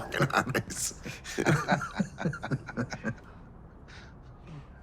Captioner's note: both laughing